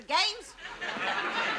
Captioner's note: audience laughs